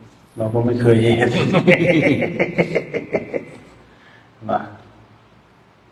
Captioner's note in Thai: เสียงหัวเราะ